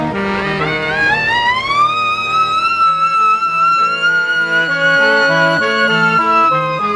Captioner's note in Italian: Sirena a squarcia GOLA